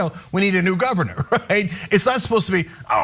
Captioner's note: laugh